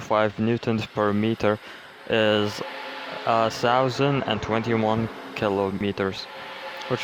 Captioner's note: exhalation